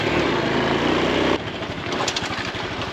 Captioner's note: motorbike starting